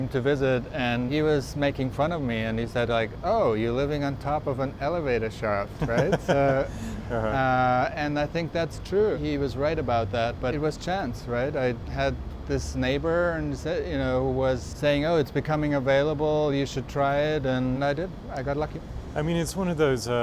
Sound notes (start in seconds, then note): 5.7 laughs